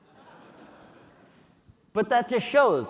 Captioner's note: audience laughing